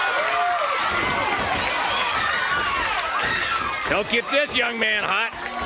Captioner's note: crowd cheering